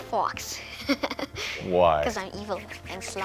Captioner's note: Jonathan chuckles